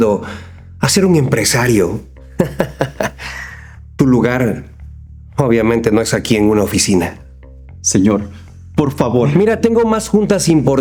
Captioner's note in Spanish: risas